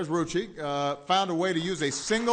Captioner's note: applause